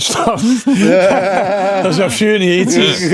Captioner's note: laughing